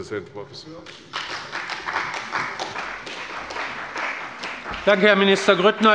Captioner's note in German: Beifall bei der CDU und dem BÜNDNIS 90/DIE GRÜNEN